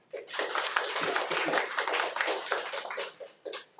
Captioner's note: audience claps